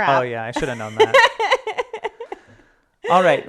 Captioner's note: laughing